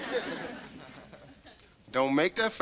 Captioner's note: audience laughter